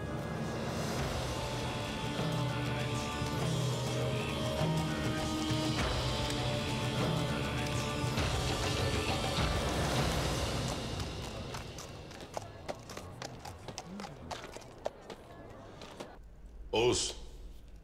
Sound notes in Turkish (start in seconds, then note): 0.9 Müzik - Hareketli; 11.9 At nalı sesi